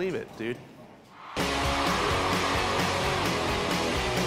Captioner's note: cheering